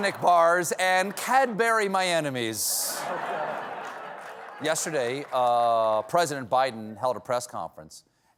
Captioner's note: laughter